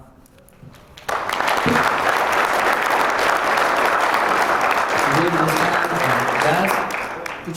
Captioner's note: applause